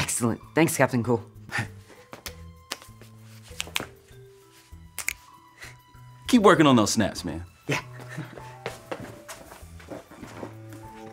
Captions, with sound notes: - Excellent. Thanks, Captain Cool. (hand slapping and finger snaps) (snaps) - Keep working on those snaps, man. - Yeah.